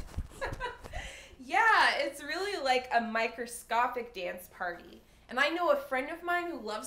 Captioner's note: laughs